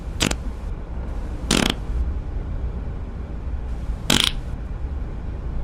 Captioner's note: traumatic farting